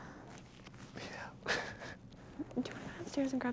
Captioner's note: laughs